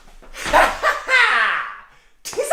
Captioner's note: insane laughter